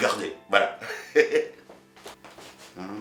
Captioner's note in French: rires